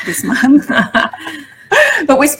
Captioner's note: laughs